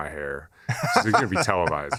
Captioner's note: laughter